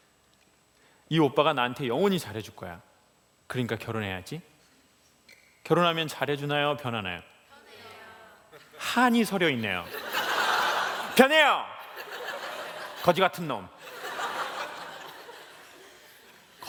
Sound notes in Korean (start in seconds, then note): 9.8 웃음